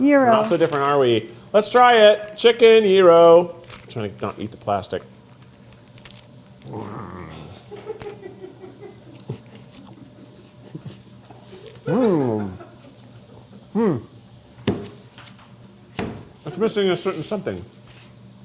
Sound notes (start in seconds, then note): 6.6 growling; 7.7 crew laughing